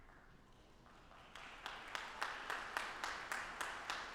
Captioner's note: audience applauding